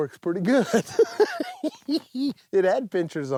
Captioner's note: laughs